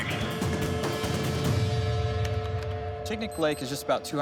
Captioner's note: keyboard clicks